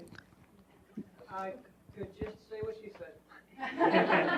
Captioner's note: speaks unmiked